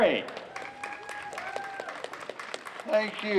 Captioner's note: clapping